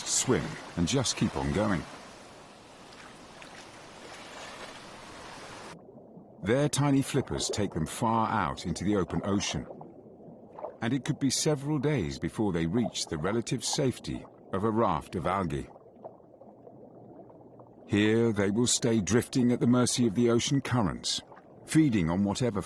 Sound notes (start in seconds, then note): none